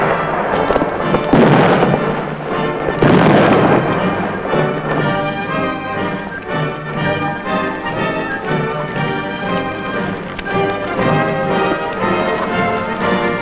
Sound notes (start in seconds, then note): 1.0 banging